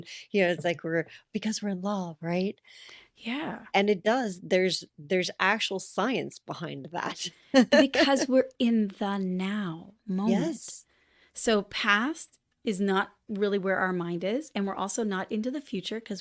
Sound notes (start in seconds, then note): 7.5 laughter